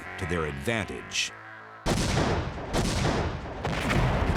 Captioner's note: sounds of battle